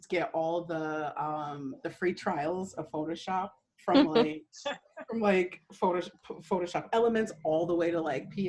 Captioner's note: laughter